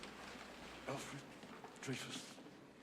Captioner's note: whispers